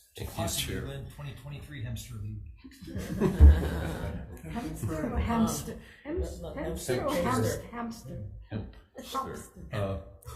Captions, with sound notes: - Thank you, Chair. - To be 2023 Hempster Lead. (crowd laughs) - Hempster or hamster? - Hempster or hamster? - Hempster. Hemp.